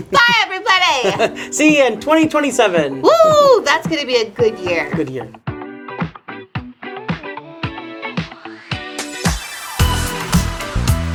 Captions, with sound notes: Bye, everybody! - (giggling) See you in 2027. - Whoo! That's gonna be a good year. - Good year. (upbeat music)